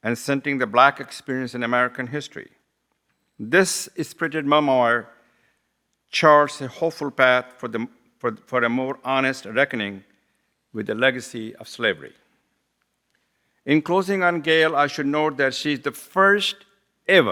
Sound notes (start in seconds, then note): none